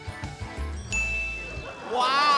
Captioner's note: ding!; cheering, applause